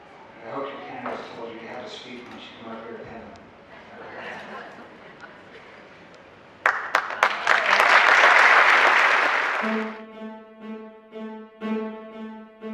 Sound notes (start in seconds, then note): 3.8 some laughs from the audience; 6.6 applause